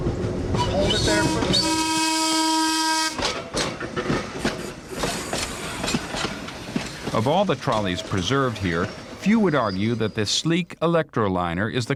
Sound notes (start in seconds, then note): 0.5 trolley whistle blowing